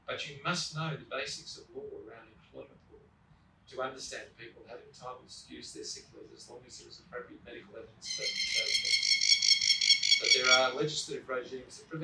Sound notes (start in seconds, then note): 8.0 birds chirping